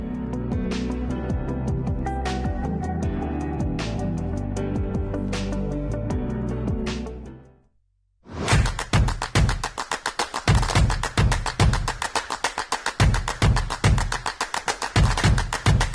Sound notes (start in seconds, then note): 0.0 soft upbeat music; 8.4 upbeat rhythmic beats; 8.7 dramatic whoosh